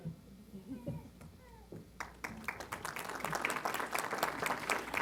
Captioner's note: applause